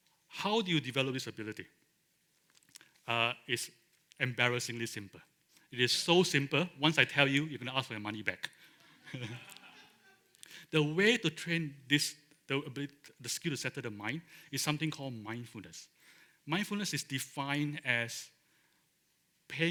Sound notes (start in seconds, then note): 8.8 laughter